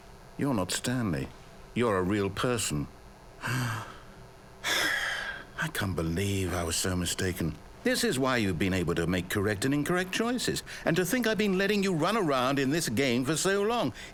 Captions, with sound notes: You're not Stanley. You're a real person. (sigh) I can't believe I was so mistaken. This is why you've been able to make correct and incorrect choices. And to think I've been letting you run around in this game for so long!